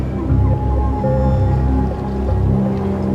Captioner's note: wolf howling